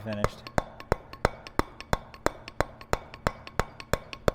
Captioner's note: metal hammering